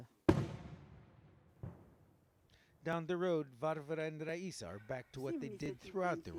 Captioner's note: speaking non-english